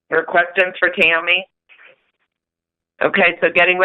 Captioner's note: silence